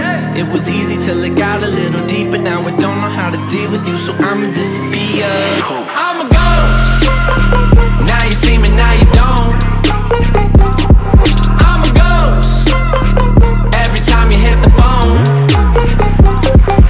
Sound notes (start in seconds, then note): 6.3 poof